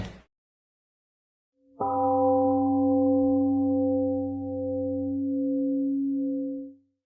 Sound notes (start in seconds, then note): 1.8 temple gong rings and fades